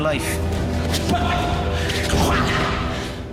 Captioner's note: grunting